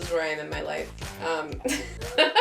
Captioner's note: trauma giggle